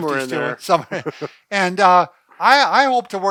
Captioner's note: laughing